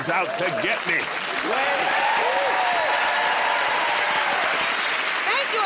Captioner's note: cheers and applause